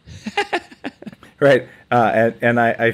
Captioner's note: laughs